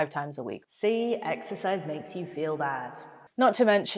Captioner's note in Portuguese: voz com eco